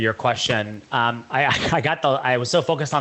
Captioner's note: laughs